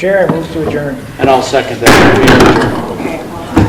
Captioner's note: gavel banging